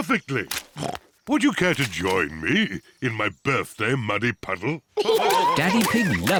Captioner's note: snorts